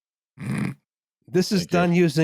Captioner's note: snorts